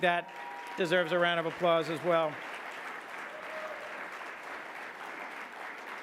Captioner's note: audience clapping